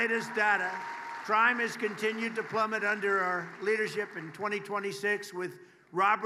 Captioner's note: applause